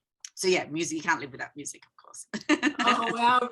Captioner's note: chuckling